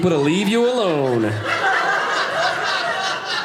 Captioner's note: audience laughing